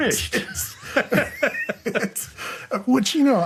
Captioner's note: both laughing